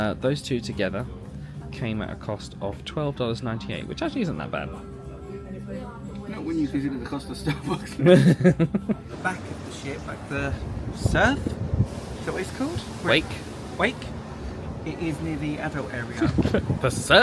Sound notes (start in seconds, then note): 7.5 both chuckle